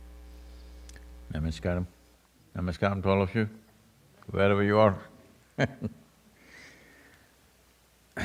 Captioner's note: laughs